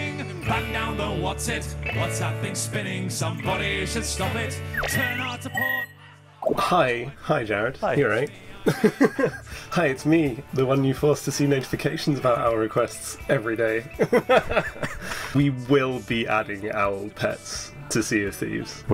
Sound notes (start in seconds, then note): 14.0 laughing